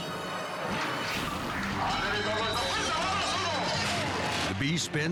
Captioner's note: tense music; announcer speaking in foreign language